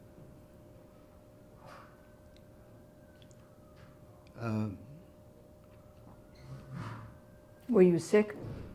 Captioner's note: pauses 6 seconds